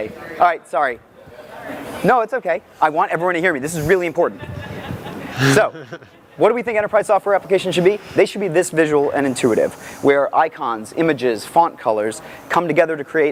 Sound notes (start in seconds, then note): 4.4 audience laughing